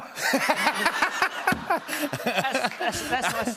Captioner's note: laughter